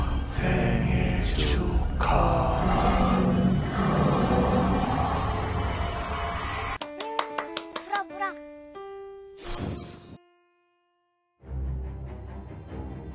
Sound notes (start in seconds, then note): 6.8 clab